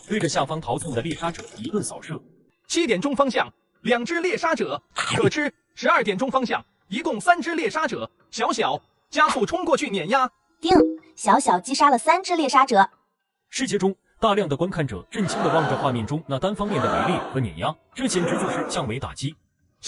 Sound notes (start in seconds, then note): 10.7 ding!